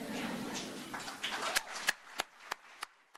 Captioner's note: laughter; applause